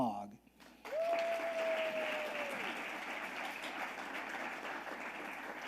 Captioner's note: audience applauding